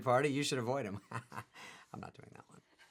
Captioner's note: laughs